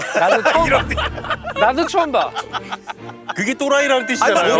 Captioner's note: laughing